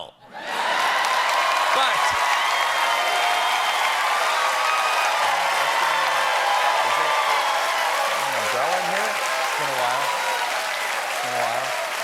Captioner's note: cheers and applause